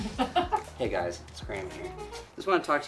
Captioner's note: laughs